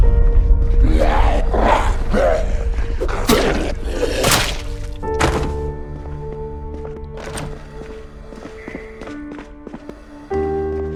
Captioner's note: groaning